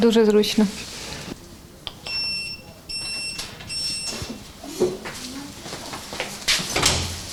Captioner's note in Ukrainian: сигнал на пейджері